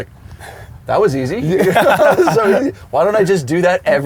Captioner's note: laughs